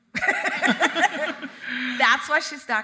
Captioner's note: both laughing